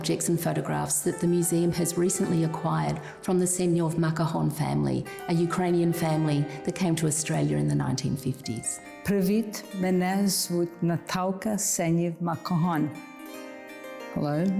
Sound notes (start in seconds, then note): 9.0 speaking ukrainian